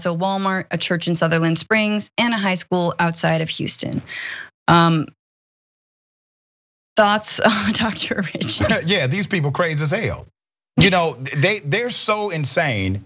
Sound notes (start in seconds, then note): 7.5 laugh